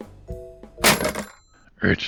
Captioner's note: phone slams into receiver